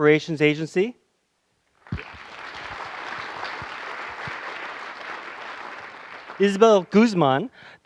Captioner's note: applause